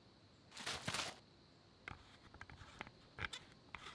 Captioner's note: shaking water